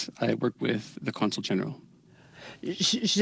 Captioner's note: speaking French